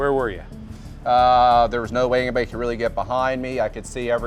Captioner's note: voiceover